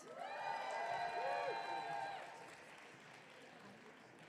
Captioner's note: audience cheering